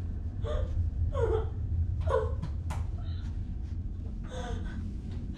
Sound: sobbing

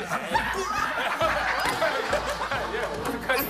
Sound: giggles

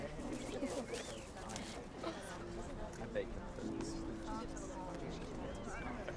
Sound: crowd chattering and laughing

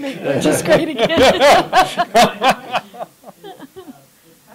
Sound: laughter

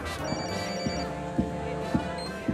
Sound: David's cell phone rings

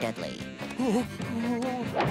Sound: whimpering; groaning

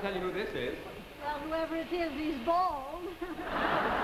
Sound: giggles; audience laughs

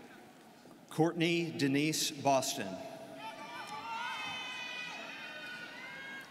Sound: students cheering

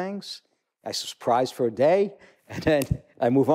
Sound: chuckle

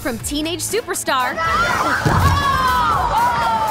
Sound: screaming

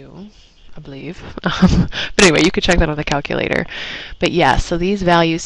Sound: laugh

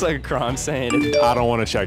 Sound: phone chiming

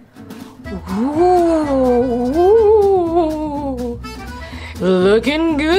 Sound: ghost moans spookily

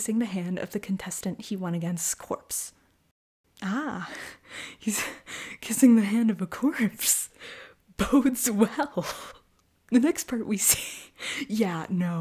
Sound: sarcasm

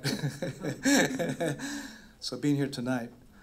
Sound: laughs

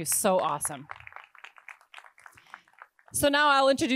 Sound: attendees applauding

